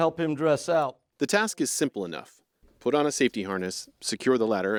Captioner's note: voice-over